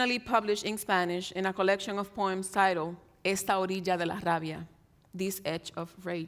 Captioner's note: speaks in Spanish